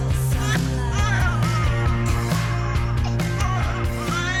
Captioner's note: crying